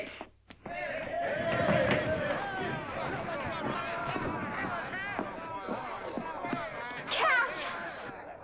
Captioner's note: excited chatter & commotion